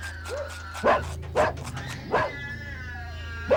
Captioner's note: dog barking